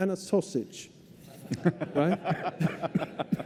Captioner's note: laughter